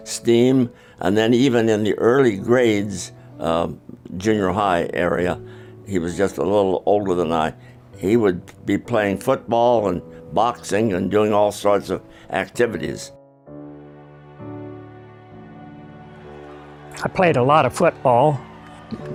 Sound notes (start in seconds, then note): 15.5 crowd cheering